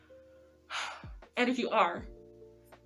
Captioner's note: sigh